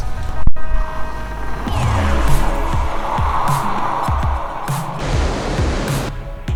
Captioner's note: water splashing